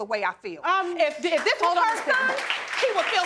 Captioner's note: audience applauding